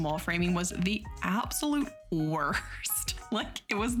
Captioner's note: laughs